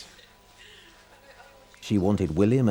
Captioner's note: people chattering